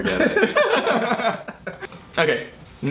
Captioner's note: laughs